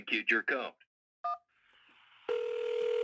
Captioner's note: phone ringing; phone beeps